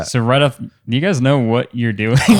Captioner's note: laughs